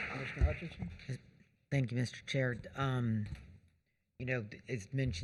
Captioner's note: applause